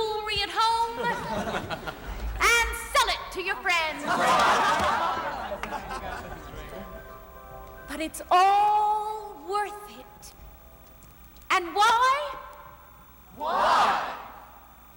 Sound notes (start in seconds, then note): 0.9 company laughs; 3.8 company laughs